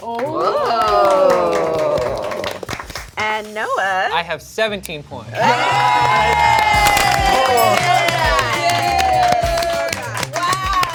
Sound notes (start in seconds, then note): 0.0 group clapping; 5.3 group cheering and clapping